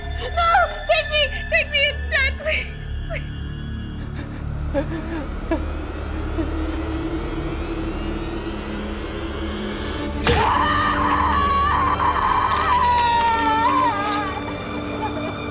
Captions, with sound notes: - No! Take me, take me instead please! (suspenseful ominous music) (knife plunges) (Kara screams)